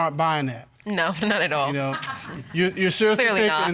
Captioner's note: chuckles